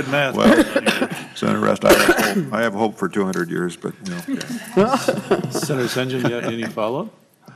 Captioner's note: laughter